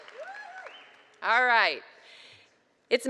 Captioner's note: cheers and applause